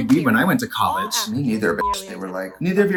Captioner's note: beep